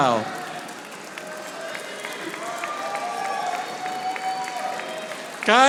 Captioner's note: audience applauding